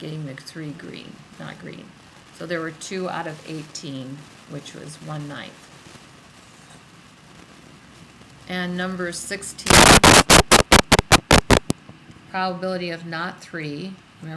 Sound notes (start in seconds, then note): 10.5 static